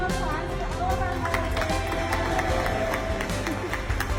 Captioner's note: cheering